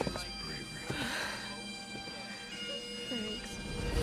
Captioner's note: sighs